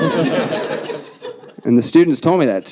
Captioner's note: audience laughing